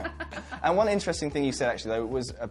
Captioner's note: laughs